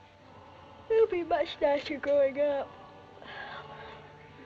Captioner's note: yawning